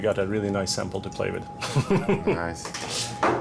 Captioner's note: chuckles